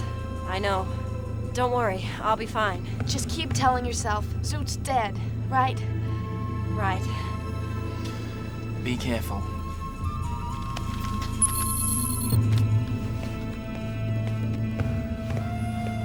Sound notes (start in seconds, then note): 10.4 slow dramatic music; 11.4 digital beeping